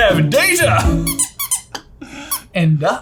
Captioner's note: duck squeaks